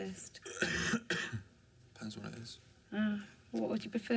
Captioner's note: coughs